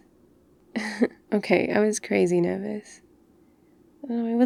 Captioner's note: laughs